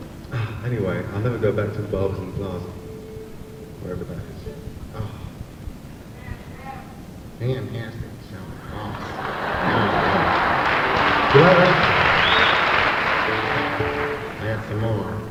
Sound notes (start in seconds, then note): 7.4 mocks accent; 8.6 audience laughs